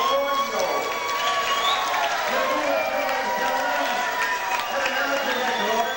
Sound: cheering from the crowd

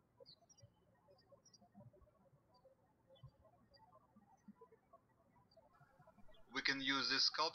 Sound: birds chirping

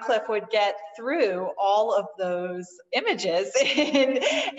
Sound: laughter

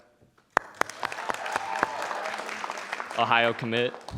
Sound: audience applauding

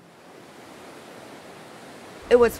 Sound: beach water rustling

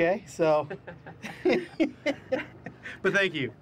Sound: laughter

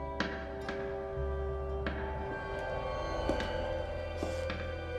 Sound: tapping

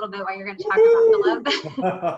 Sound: cheering; laughing

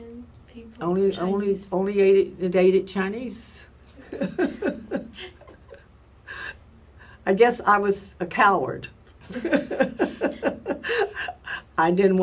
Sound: laughs

